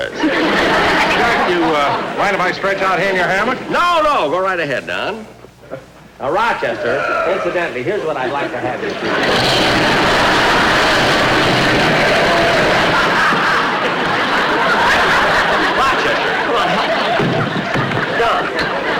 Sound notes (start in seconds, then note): 0.0 audience Laughing; 9.2 crashing Sound; 10.1 audience Laughing